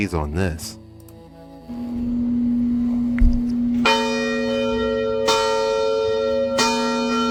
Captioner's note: AUDIO: The 138-year-old bell rings and resonates